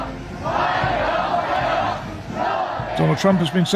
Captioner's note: chanting